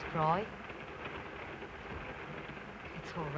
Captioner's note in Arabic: صوت خشخشة القطار